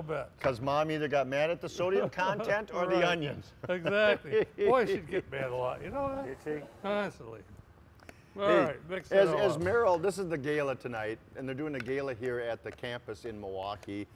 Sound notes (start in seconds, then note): 2.2 laughs